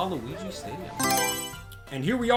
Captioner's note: Mario Selection Sound